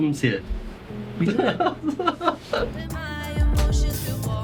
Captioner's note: laughs